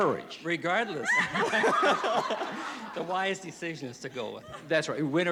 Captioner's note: laughs